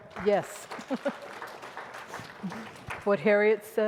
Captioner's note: audience applauding